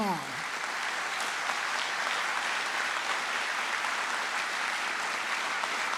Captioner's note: trustees and audience applaud